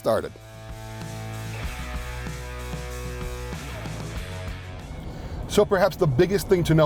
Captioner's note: upbeat music; vehicle droning